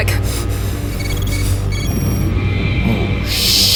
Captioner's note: system beeping